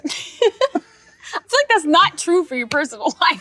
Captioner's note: laughs